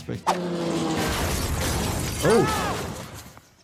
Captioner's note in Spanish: helicóptero estrellándose